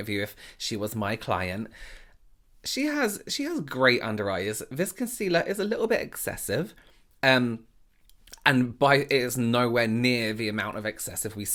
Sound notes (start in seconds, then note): none